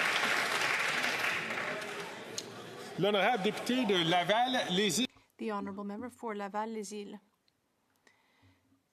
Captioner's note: some Applause